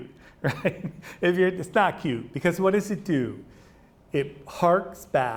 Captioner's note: laughs